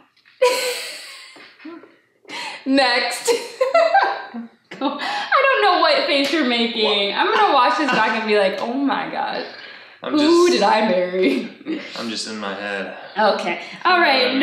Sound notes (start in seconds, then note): 0.4 laughs; 3.2 laughs